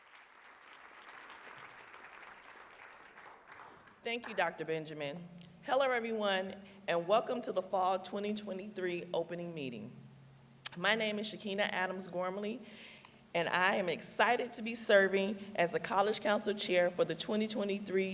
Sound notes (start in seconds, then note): 4.5 applause